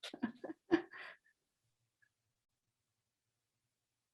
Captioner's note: chuckling